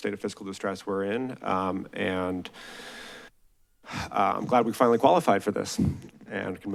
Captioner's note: sighs